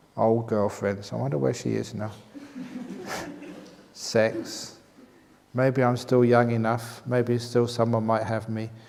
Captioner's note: laughs